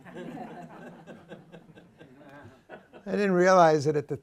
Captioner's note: laughter